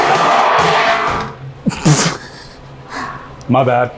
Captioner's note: aluminum clatters